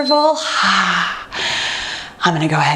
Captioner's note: beeping; exhales